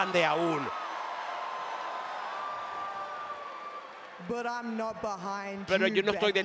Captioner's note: applause